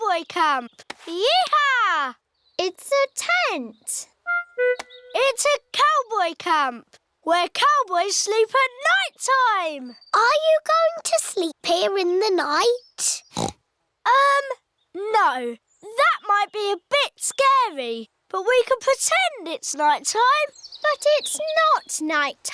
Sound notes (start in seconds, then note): 13.3 oinks